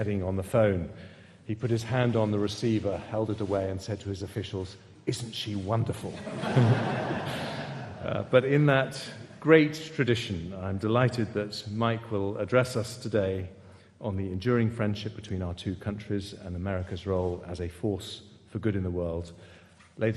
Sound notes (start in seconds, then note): 6.2 audience laughing